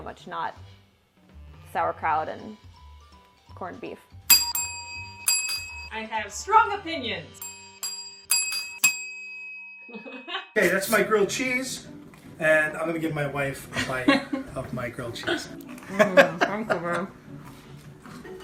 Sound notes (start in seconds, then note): 4.3 ding; 7.4 ding; 10.0 laughs